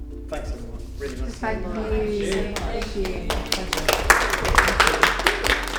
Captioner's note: applause